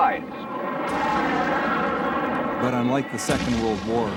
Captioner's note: explosions blasting